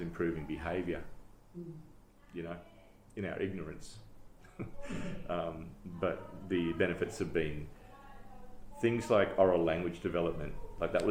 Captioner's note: laughs